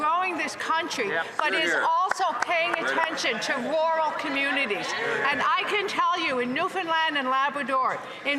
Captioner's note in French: voix de l'interprète